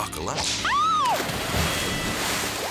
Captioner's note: water splashes; whip cracks; woman shrieks